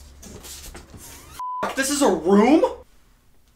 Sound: beep

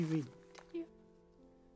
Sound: very quiet

